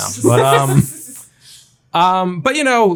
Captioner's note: laughing